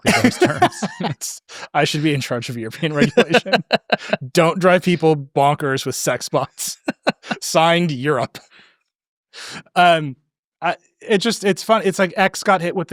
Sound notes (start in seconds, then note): 0.0 laughing; 6.8 laughing